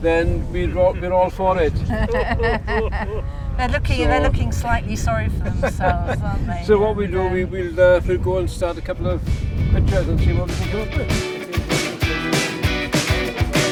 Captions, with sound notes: then we're all for it. (laughter) - They're looking slightly sorry for themselves, aren't they? - So what we'll do, we'll go and start a couple of pictures. (upbeat music)